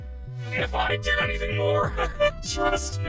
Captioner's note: laughs nervously